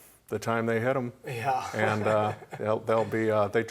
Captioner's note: laughs